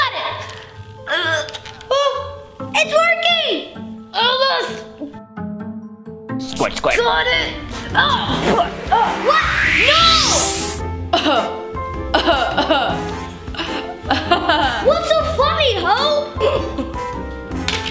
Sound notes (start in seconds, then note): 7.6 air whooshes; 9.8 water bottle spritzing; 11.3 laughing